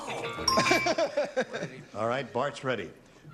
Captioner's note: jimmie laughing